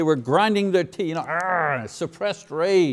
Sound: grunting

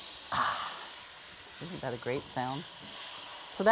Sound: sizzling; sighing

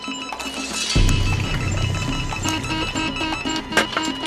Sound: monitors beeping rapidly

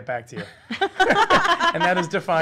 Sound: laughing

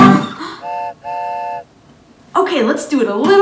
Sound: train honks

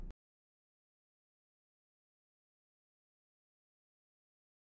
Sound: silence

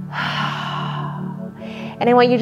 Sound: sighs

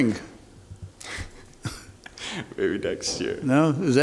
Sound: chuckles

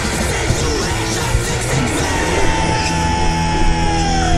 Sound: roar

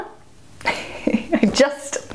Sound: laughs

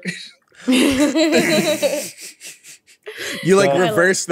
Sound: laughing

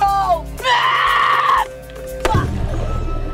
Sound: screams

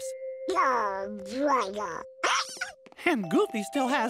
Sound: hiccups

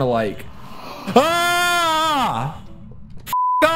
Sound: more scared Arkansan noises

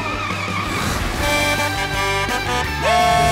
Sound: horn honking

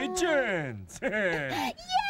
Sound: chuckles

